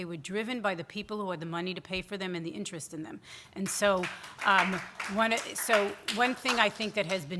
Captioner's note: scattered audience applause